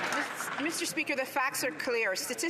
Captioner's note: some Applause